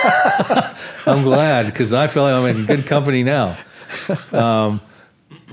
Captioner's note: laughter